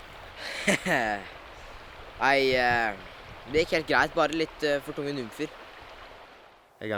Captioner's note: laughing